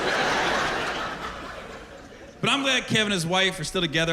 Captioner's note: laughter